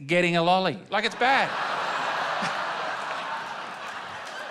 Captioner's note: laughter